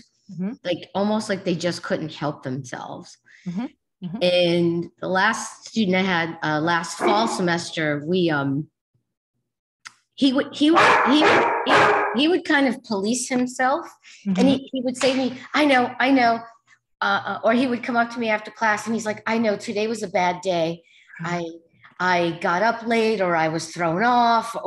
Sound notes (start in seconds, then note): 10.7 dog barking loudly